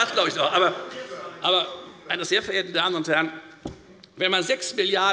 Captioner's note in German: Zurufe von der SPD